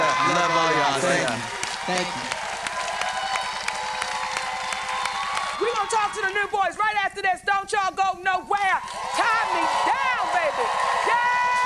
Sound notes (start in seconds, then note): 2.2 cheers and applause